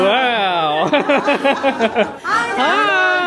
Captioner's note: laughing